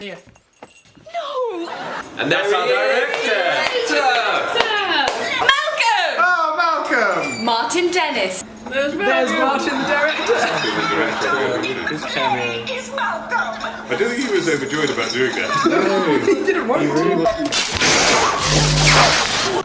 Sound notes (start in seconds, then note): 15.5 laughs; 18.0 buzzing noises